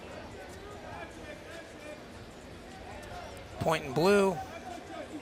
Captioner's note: crowd chattering and cheering